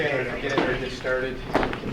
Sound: people chattering

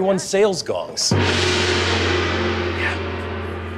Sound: gong booms

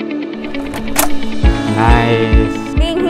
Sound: door opening

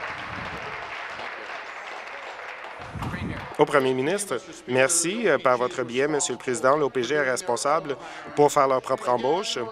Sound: some Applause

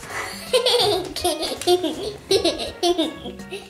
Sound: laughing

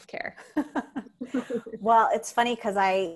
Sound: laughing

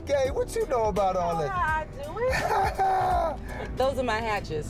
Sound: laughing lightly

